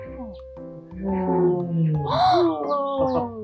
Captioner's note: tiger sound